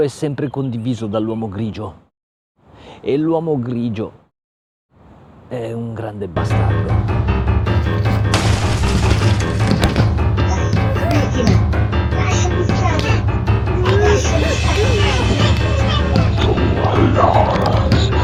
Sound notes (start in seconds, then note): 7.8 breaking glass, slapping, beatings; 16.1 woman crying